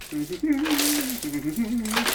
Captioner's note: humming; rustling